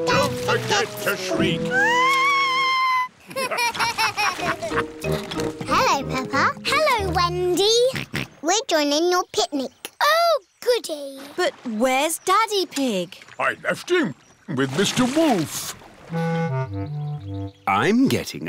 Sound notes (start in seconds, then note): 1.6 shrieks; 3.2 laughter; 8.3 snorts